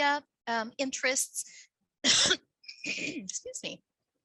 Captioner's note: clears throat